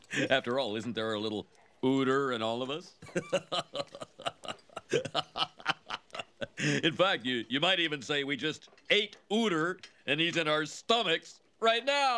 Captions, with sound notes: After all, isn't there a little Uter in all of us? *Laughs harder* In fact, you might even say that we just ate Uter And he's in our stomachs right now!